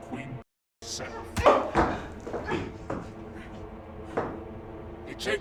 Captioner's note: kick thudding